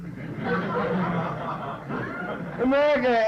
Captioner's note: laughter